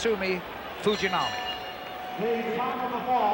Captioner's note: bell rings